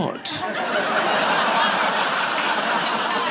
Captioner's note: audience laughing; audience applauding